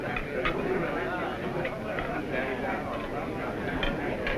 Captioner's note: crowd chattering